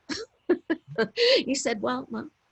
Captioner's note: laughs